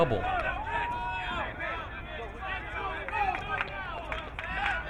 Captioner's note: crowd cheering; crowd clapping